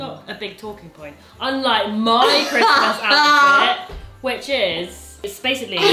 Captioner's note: laughs